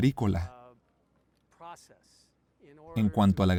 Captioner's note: Hablando idioma extranjero